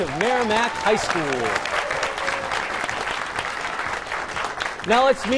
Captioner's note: applause